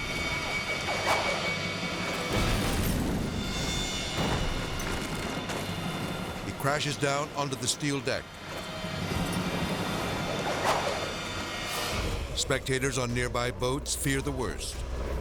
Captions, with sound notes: (debris whirring) (explosion booms) (debris clattering) He crashes down onto the steel deck. (debris whirring) Spectators on nearby boats fear the worst.